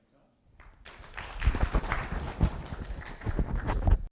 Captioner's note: students clapping